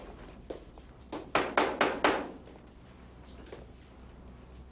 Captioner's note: door knocking